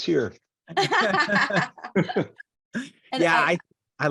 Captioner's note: laughing